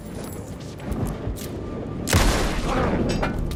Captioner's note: gun firing